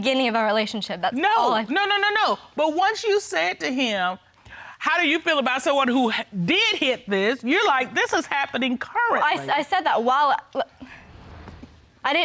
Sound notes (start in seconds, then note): 10.8 hesitatingly